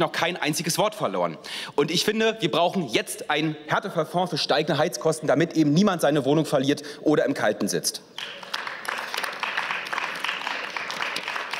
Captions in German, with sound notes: kein einziges Wort verloren. Und ich finde, wir brauchen jetzt einen Härtefallfonds für steigende Heizkosten, damit eben niemand seine Wohnung verliert oder im Kalten sitzt. (Beifall)